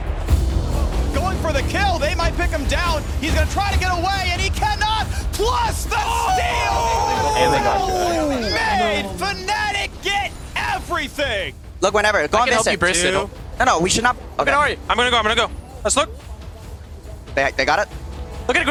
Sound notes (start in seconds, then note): 12.5 teammates chattering; 18.5 teammates communicating